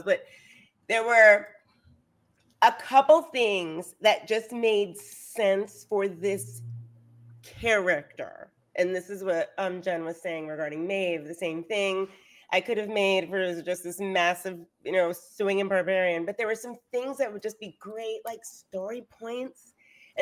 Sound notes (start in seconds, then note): none